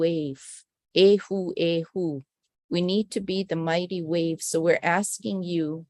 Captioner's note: non-english speech